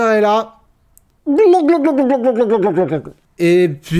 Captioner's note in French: Glouglouglouglouglouglouglouglouglouglouglou